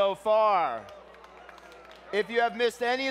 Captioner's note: clapping